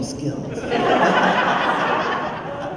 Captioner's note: laughter